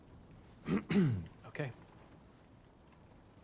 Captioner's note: clears throat